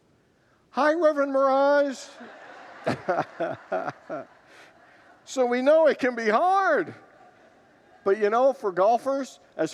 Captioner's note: laughs with congregants